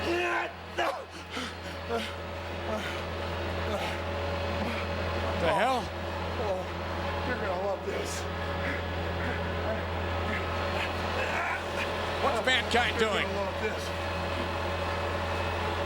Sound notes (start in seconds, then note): 0.7 Mankind grunting and panting; 2.8 motor humming